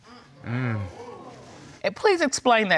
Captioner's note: crowd gasp